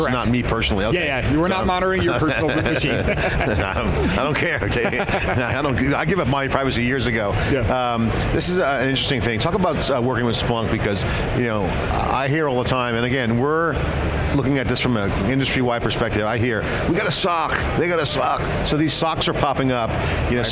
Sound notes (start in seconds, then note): 2.1 laughing